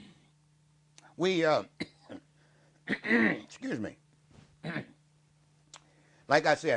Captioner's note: coughs